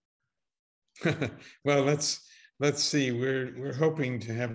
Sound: laughs

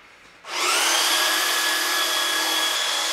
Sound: electrical whirring

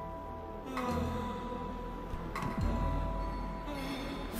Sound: guy moaning

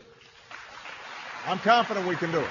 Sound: applause

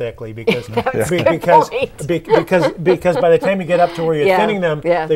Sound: laughing

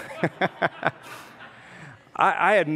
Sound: congregants laugh

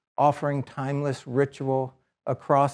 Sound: none

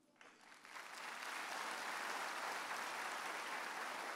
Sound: audience applauds

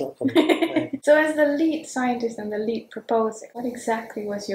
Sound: laughs

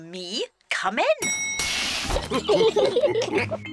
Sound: laughs; elevator bell dings; all laughing

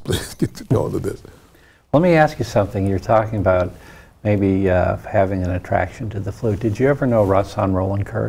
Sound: laughs

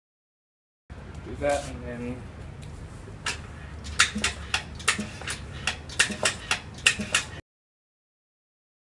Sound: pumping sound

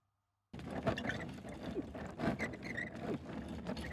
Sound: trolley bag sound

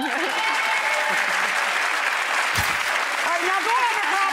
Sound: crowd applauding

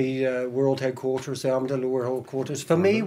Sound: mutters

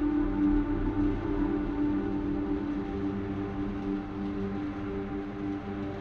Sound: wind

